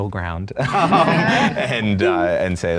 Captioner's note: everyone laughing